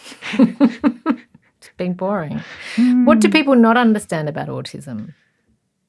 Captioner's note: laughs